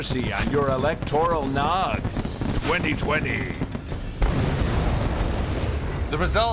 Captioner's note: explosion